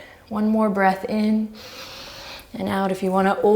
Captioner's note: deep breaths